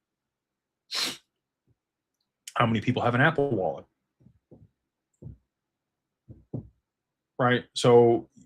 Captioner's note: snorts